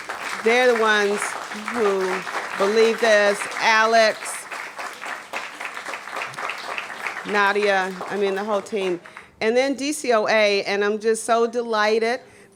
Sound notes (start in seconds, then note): 6.6 applause